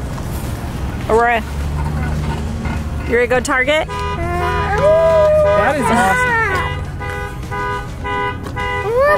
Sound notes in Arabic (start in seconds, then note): 4.3 تزمير سيارة